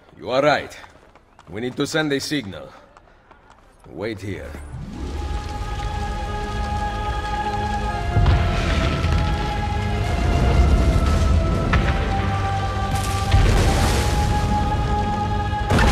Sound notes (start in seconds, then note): 6.4 sound of fire and explosions